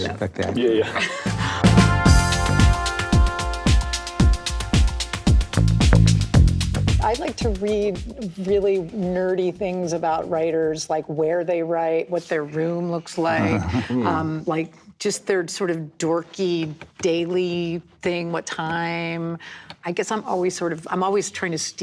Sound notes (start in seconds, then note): 2.5 upbeat music; 13.3 men laughing